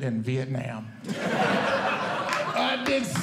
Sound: audience Laughing

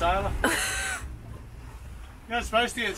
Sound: laughs

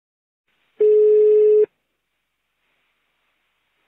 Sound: phone rings

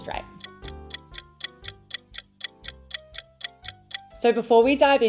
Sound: clock ticking

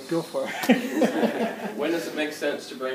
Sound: laughter

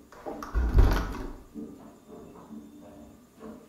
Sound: door closing

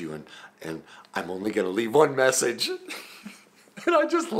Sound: laughs

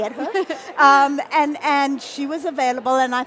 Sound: laughing

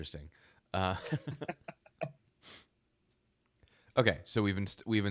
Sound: both laughing

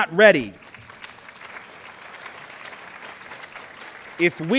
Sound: clapping

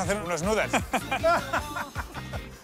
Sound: laughing

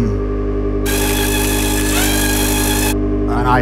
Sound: machine buzzing

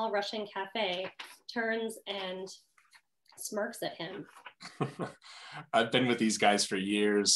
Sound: chuckle

